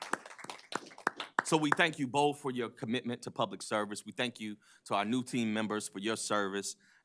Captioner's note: applause